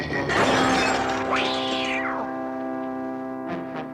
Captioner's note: screeches